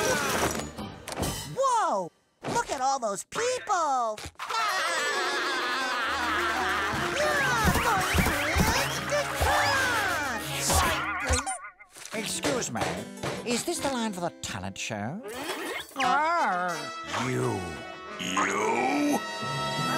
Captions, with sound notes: Whoa! Look at all those people. [laughing] [squeaking] Excuse me. Is this the line for the talent show? Arr. You. You.